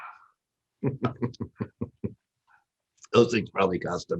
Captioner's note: laughs